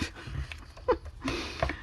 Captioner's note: laughs